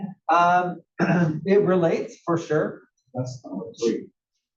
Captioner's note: cough